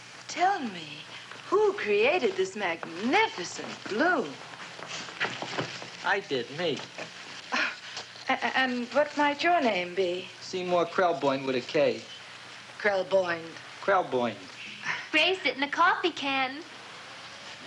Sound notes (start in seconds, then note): 7.5 sighs